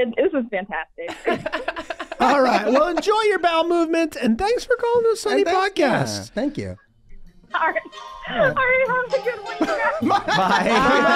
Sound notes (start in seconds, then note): 1.0 Meg laughing; 9.2 laughing